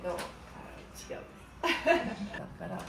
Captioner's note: laugh